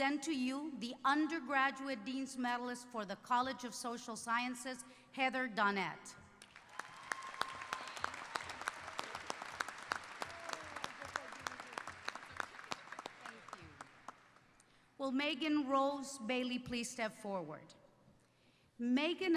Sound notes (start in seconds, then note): 4.2 applause